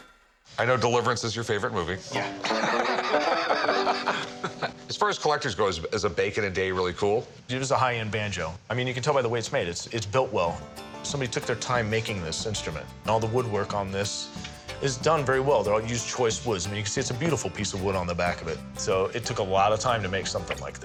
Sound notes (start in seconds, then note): 2.2 laughter